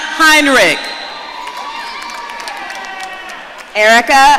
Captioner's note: audience cheering